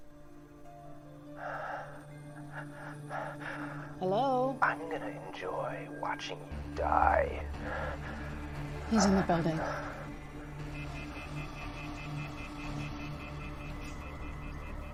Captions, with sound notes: [heavy breathing] Hello? [man's voice] I'm gonna enjoy wawatching you die. [draramatic music] He's in the building. [dial tone beeping]